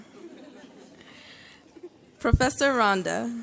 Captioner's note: graduates laugh